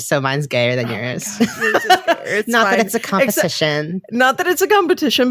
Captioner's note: laughing